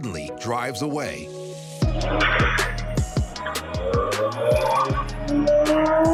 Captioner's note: engine revs; tires screech